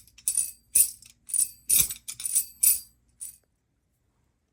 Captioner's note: rattles jingling continues